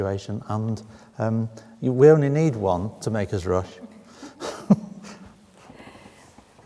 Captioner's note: chuckles